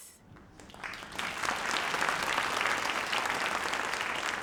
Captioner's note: audience applauds